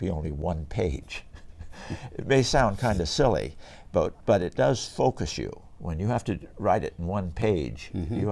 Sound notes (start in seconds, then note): 1.4 laughs